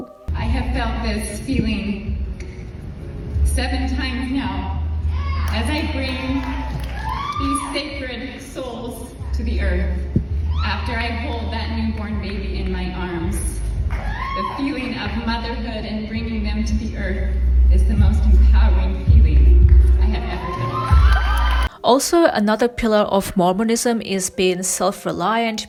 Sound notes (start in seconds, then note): 20.2 audience clapping and cheering